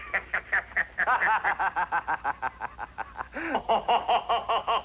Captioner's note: laughing